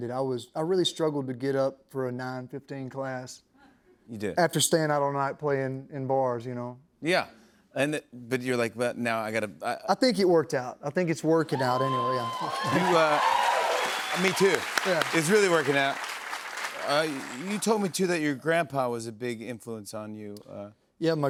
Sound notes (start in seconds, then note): 11.5 applause, cheering